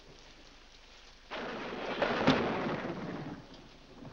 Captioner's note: loud thunder